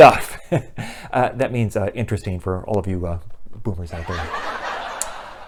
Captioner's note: laughter